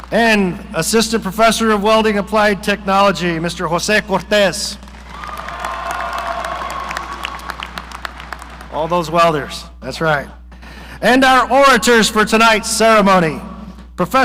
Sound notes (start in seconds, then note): 4.8 audience applauding